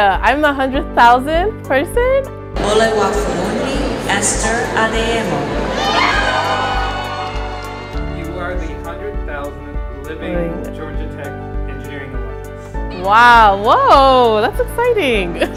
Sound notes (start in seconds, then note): 5.8 cheering